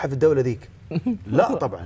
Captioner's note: giggles